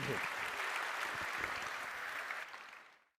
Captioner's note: applause